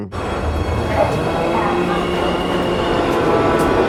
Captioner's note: subway bustling